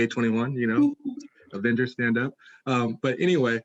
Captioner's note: laughs